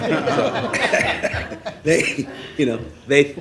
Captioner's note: laughing